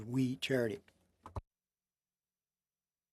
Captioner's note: speaking French